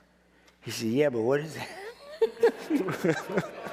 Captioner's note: laughing